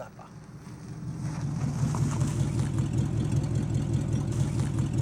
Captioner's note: truck motor growling